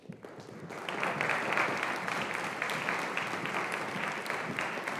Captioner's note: audience applauding